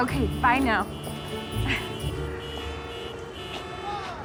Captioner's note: car horns honking